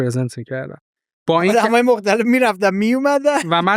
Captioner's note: laughs